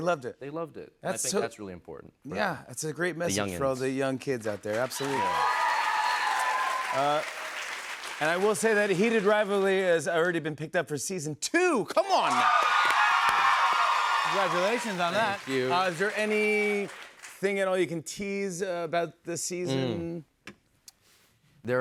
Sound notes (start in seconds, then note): 4.5 cheers and applause; 12.2 cheers and applause